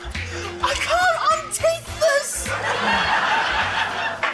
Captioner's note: laughter